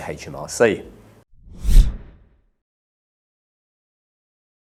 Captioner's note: air whooshes